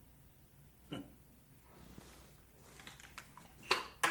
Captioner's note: Perez scoffs